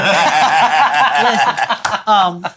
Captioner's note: laughing